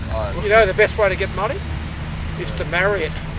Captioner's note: laughs